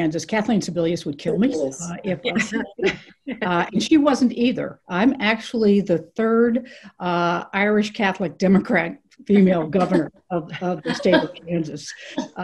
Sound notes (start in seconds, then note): 2.3 everyone Laughing